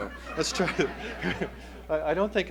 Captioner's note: laughter